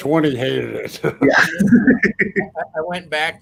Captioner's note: laugh